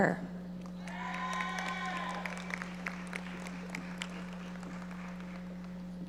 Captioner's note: audience members cheering and applauding